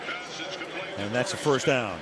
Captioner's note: pa announcement